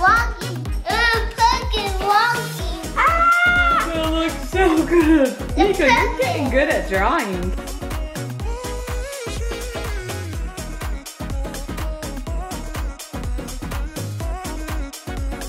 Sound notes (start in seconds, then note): 2.8 exclaims; 8.0 upbeat music